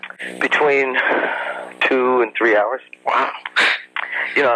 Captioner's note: sighs